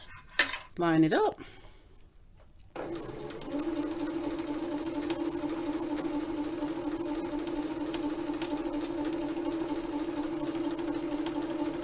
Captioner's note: sewing machine noise